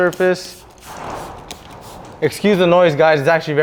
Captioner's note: garage doors shuddering